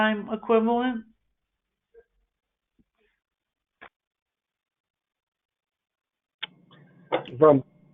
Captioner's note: silence